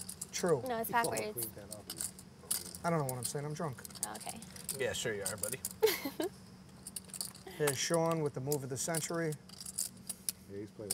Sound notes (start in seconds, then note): 5.8 laughter